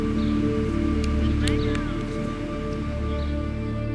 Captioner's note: gentle music; people chattering; gentle music